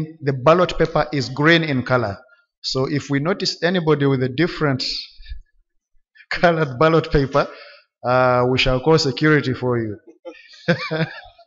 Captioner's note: chuckle